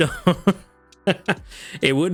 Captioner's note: laughs